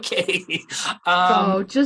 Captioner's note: laughs